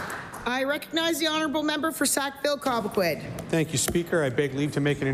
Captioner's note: applause